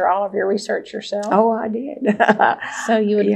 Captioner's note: laughs